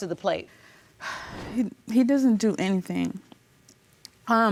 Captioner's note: sighs